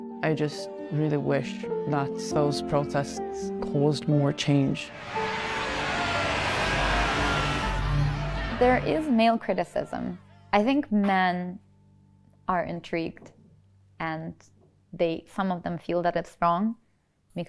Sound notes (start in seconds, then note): 4.7 tense music; 5.5 crowd chattering